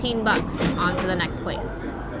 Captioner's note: cash register ringing